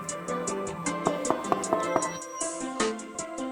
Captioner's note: knocking on the door